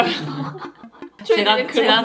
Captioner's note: laugh